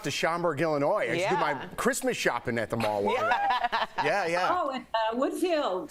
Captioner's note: laughter